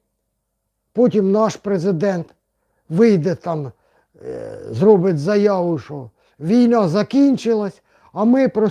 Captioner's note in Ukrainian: сопіння